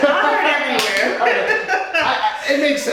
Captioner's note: laughing